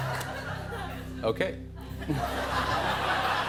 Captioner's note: laughter